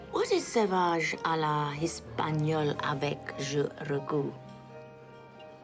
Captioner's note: speaks in foreign language